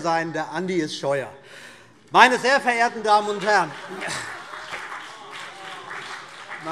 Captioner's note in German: Heiterkeit und Beifall CDU und BÜNDNIS 90/DIE GRÜNEN